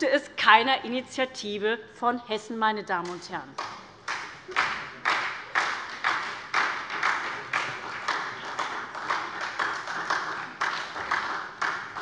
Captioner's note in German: Beifall bei der SPD